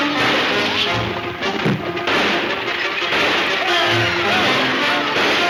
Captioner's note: gunshots banging